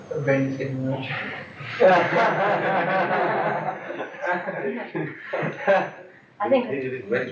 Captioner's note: laughter